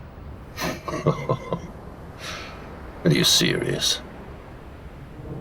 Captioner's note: laughs